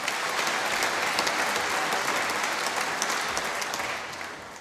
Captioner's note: applause